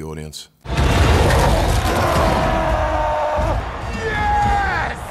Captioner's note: Hulk roaring